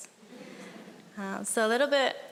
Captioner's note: audience chuckling